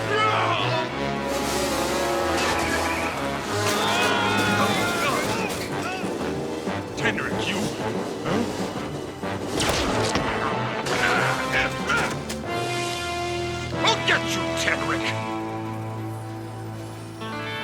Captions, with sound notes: (Yelling) (Screaming) Tenrec, you... Huh? (Grunting) I'll get you, Tenrec.